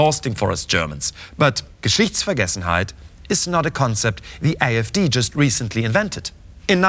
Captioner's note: speaking german